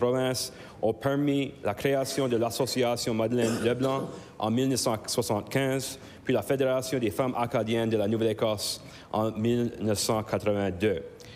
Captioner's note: speaking in French